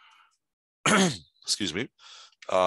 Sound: coughing

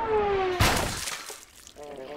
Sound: splat

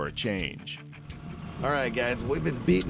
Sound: boat engine idling

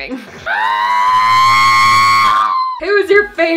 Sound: high-pitched scream

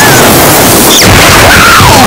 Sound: cue thunder explosion

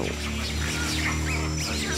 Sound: screeching

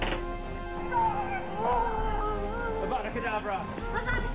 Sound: shouting and growling

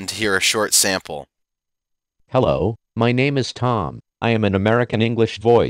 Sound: Tom synthesizer speaking

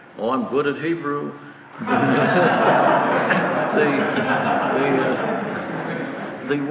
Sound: audience laughter

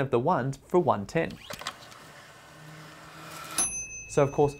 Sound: wind-up motor buzzing; timer bell ringing

